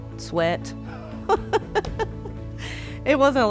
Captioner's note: laughing